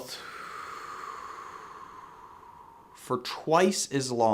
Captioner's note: exhales